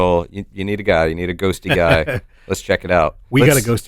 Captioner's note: chuckles